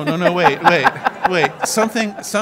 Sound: audience laughs

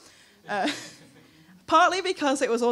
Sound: laughing

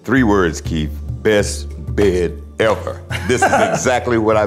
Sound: laughing

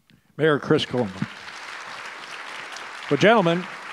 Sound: audience applause

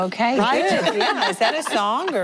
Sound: laughing

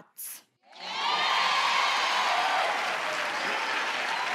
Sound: crowd applauds

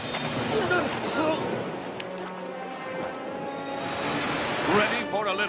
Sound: gasping and spluttering

